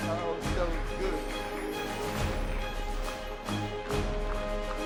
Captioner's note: audience applauding